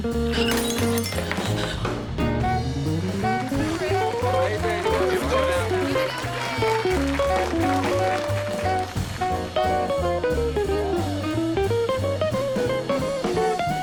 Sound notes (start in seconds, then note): 0.3 glass shatters; 2.4 crowd cheering; 2.4 crowd applauding